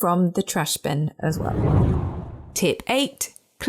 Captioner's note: air whooshing